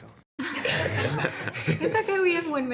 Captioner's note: all laughing